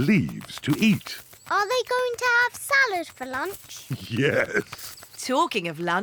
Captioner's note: laughs